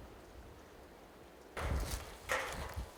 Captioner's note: metal clanking